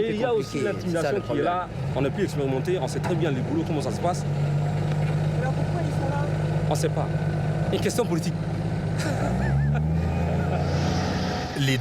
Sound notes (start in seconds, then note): 2.3 speaking foreign language; 5.7 interviewer speaking foreign language; 6.8 speaking foreign language